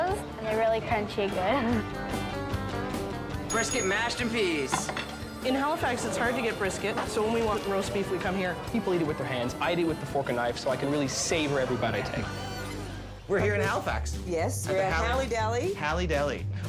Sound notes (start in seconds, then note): 3.4 bell dings; 5.3 plate clatters